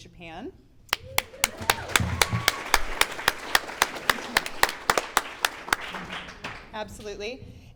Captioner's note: clapping